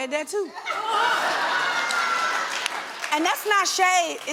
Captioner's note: audience laughing